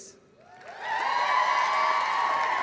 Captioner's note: applause